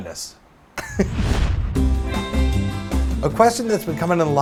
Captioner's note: swoosh